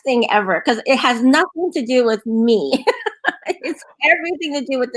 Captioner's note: laughs